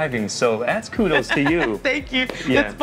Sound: laughs

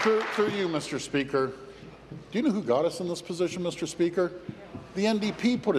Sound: applause

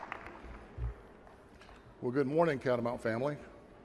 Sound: applause

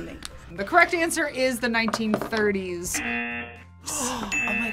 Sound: buzzer; gasps

